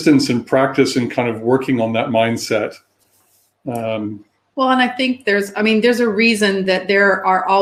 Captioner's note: erm